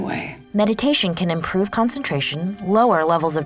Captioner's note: voiceover